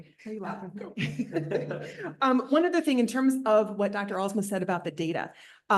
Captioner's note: laughter